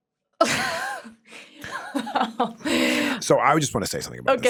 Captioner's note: laughs